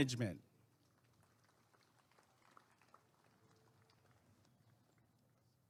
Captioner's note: applause and cheering